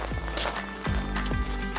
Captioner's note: footsteps; upbeat music